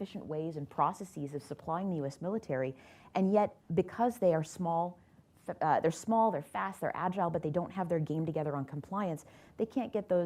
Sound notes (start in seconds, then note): none